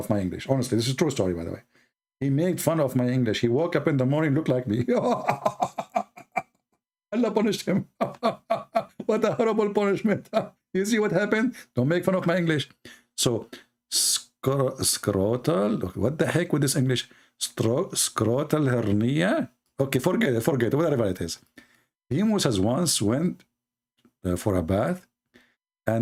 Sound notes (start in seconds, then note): 4.8 Ketawa